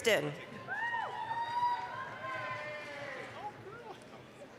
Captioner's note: applause, cheering